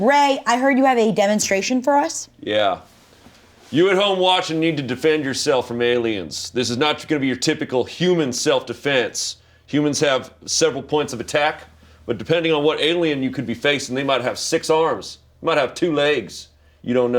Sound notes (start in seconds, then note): none